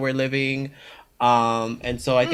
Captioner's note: makes agreement noises